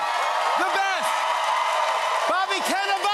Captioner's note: cheers and applause